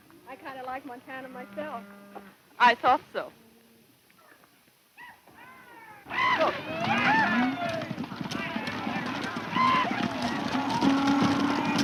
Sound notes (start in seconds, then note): 5.3 cowboys yelling